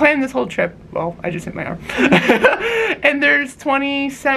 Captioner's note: lols